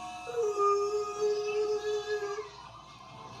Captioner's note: screaming